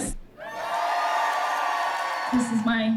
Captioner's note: applause and cheering